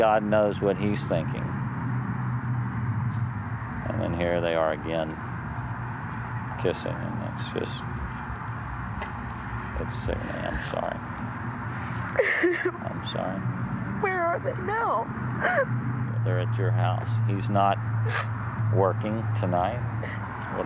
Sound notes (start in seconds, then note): 12.2 crying